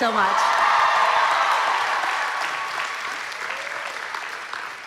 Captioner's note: applause